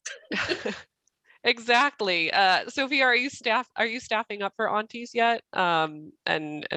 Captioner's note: laughter